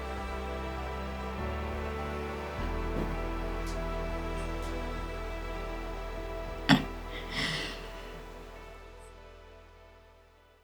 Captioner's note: sobs